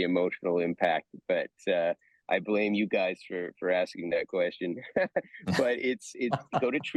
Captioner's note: laughs